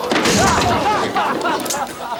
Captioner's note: patron yelps; patrons laugh